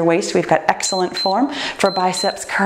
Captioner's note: timer beeps